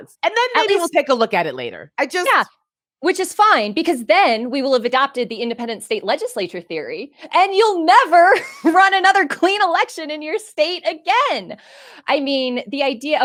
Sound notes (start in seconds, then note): 9.6 laughing